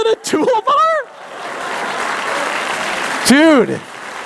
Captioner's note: applause